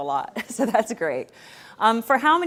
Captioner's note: chuckling